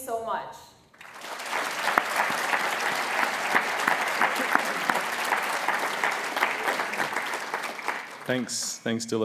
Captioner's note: applause